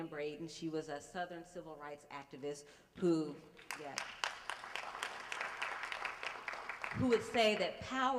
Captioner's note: applause